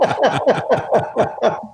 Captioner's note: laughing